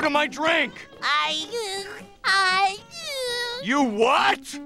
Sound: giggles

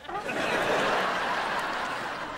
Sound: laughing

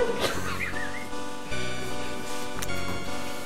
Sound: laughing

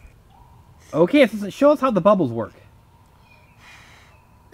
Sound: voiceover

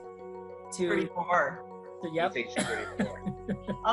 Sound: laughs

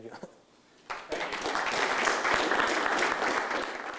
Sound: applause

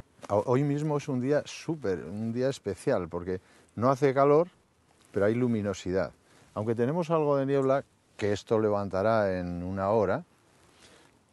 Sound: speaking spanish

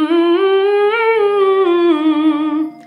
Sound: humming

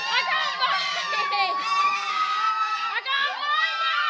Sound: loud howls and wails

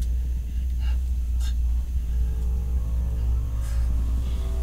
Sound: tense music; breathes erratically

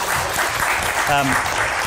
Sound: applause

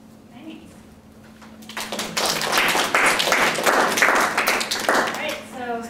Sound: applause

